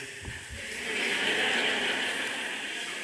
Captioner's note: laughter